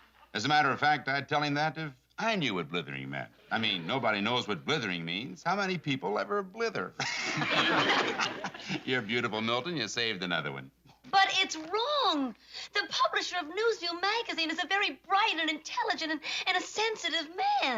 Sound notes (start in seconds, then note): 7.0 laughter